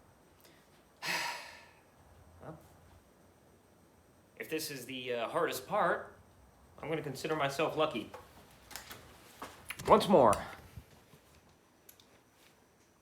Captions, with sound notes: [sigh] Well. If this is the hardest part, I'm going to consider myself lucky. Once more.